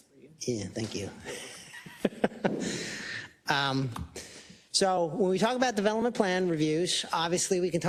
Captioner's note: laugh